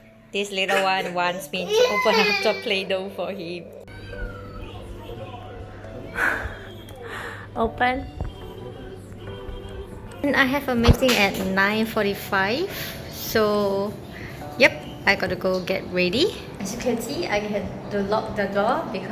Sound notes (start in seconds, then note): 6.2 laughs